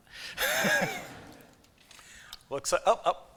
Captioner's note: laughter